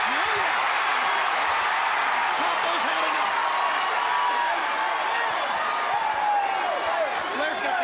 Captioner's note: crowd cheering